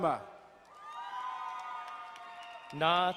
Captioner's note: crowd cheering and applauding